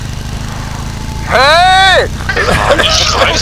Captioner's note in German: schreit